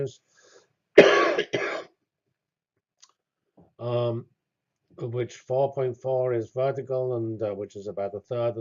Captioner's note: cough